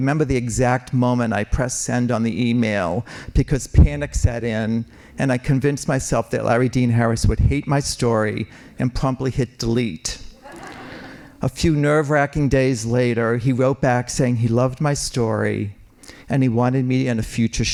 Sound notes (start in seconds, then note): 10.3 laughing